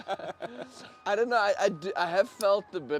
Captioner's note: laughs